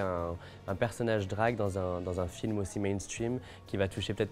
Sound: speaking French

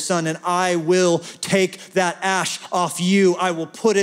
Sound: none

